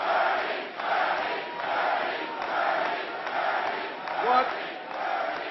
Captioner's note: applause